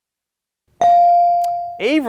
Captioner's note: ding chimes